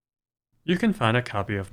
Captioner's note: none